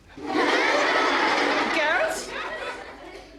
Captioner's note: laughter